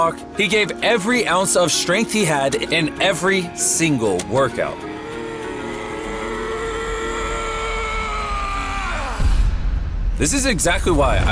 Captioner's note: screaming; groaning